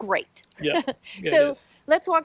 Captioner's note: laughs